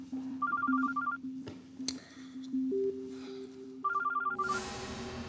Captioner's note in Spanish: suena el celular